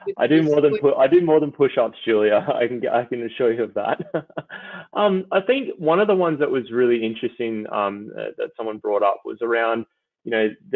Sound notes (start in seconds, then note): 4.5 chuckles